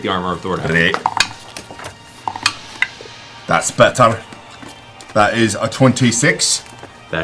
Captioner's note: Scottish accent